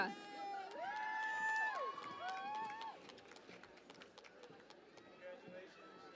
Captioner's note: cheering and Applause